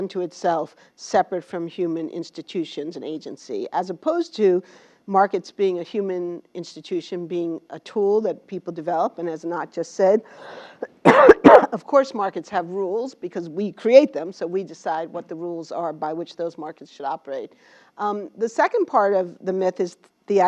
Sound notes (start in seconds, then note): 10.9 cough